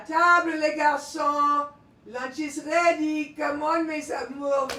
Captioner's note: Pauline speaking in French